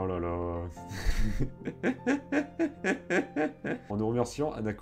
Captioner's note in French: Rires